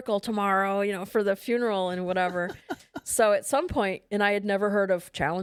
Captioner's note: laughs